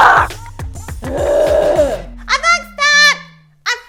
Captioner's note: groaning